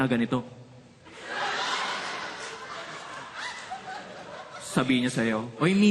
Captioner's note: laughter